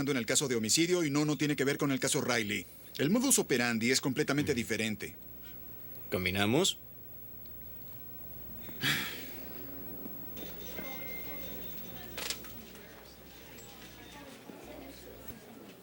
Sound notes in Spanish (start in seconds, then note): 8.7 Dave suspira; 10.8 funcionários do escritório conversando